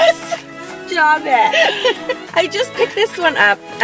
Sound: both laughing; laughs

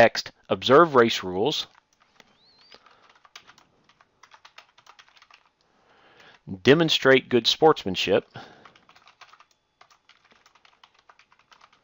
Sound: typing

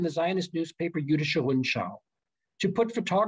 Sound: german

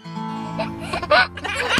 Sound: guitar playing; laughing

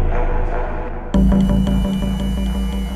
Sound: whirs

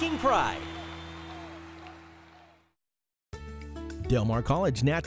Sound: cheering

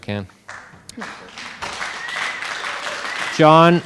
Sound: audience applauding

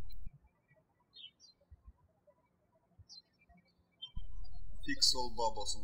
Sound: birds chirping

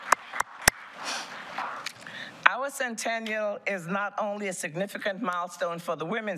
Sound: applause

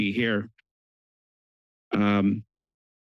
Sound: pause

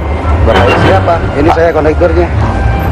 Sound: speaking indonesian

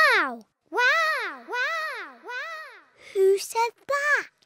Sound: peppa's voice echoes around mountains

